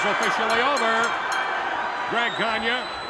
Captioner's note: bell rings